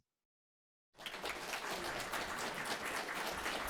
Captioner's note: applause